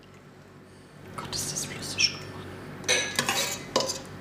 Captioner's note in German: flüstert